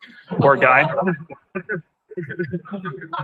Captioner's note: laughter; laughter